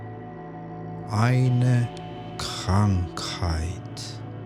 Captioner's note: german